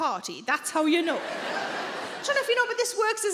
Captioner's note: audience laughing